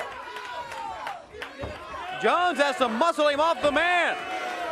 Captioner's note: crowd cheering